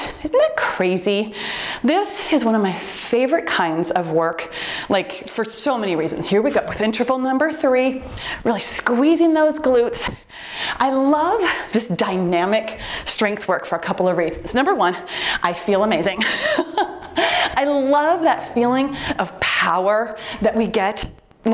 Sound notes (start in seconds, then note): 5.2 timer beeps; 16.1 laughing